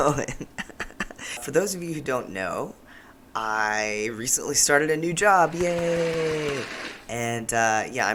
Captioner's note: applause